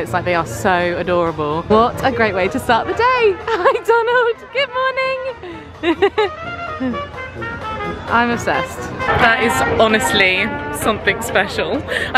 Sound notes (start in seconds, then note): 5.2 laughing